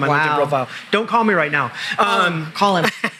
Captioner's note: laughs